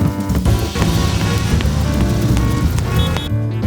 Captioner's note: city sounds